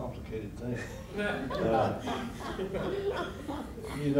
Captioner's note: laughter